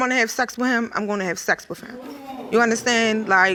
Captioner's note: audience murmuring